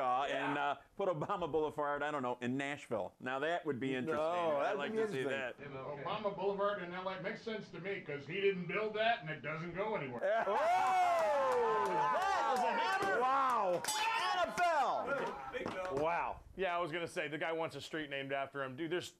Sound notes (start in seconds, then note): 10.2 audience cheers; 13.8 bell Rings